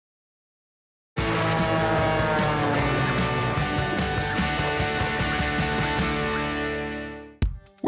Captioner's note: plane engine; upbeat music